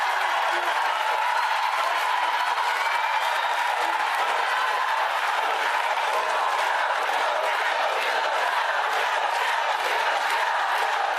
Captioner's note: cheers and applause